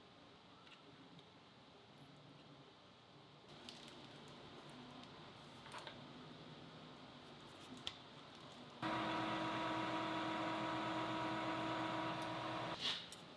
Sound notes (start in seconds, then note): 8.8 machinery whirring